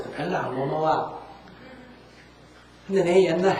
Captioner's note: audience Laughter